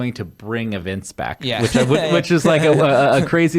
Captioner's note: laughs